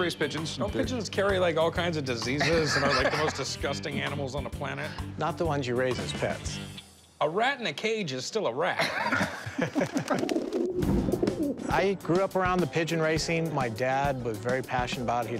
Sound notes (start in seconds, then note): 8.7 laughter; 9.9 pigeons cooing